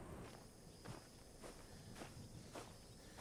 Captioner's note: gravel crunching